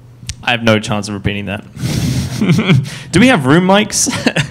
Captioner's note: laughs